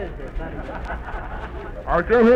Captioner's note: audience laughs